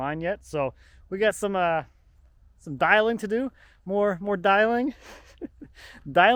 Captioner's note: chuckles